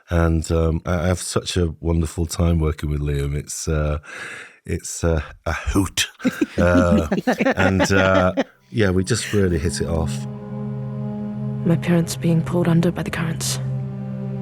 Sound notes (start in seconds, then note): 6.2 all laughing